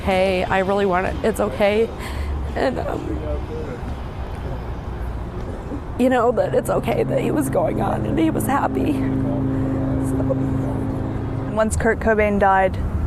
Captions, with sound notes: - Actually, Tracy had a dream about him right after he died, and he came to her in the dream and said, "It's okay. I really wanted... It's okay." [SOBBING] But it's okay that he was going on and he was happy.